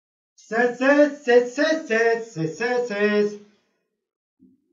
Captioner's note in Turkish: yankılı ses